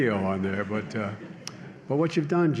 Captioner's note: laughter